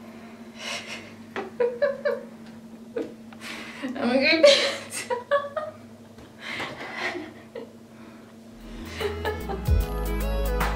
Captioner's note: laughs